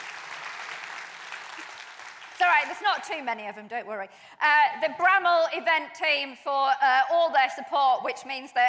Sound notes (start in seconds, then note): 0.0 applause